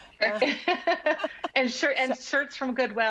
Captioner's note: laughs